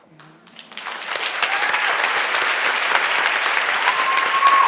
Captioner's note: audience applauds